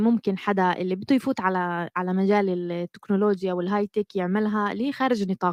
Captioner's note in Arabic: لغة أجنبية